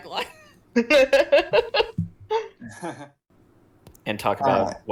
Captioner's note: end of episode group laugh